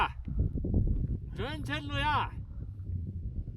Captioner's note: shouting